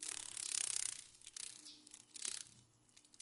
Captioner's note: sounds of a dragon fly